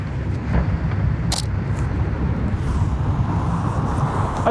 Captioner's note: snapping